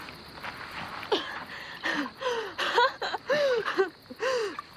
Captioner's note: coughing and giggling